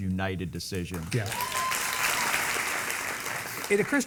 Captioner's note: audience clapping